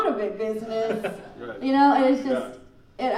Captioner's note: laughing